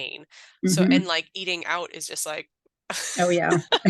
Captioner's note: laughs